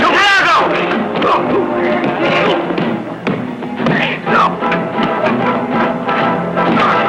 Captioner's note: whacking; crying out